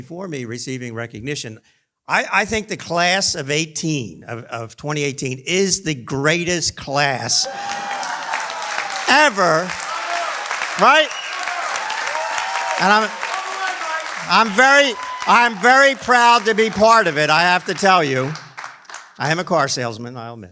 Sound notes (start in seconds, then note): 9.9 cheering; 11.5 clapping